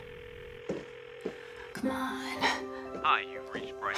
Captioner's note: phone ringing